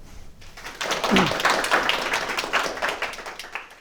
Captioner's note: crowd clapping